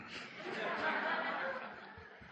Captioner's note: laughter